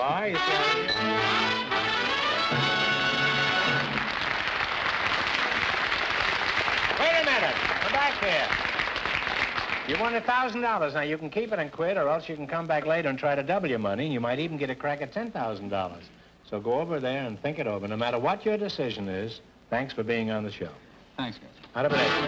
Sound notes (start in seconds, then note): 0.0 triumphant music; 3.1 applause; 21.9 triumphant music & applause